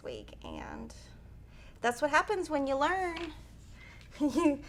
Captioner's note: chuckles